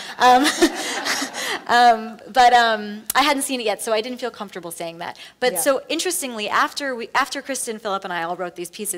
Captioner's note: laughs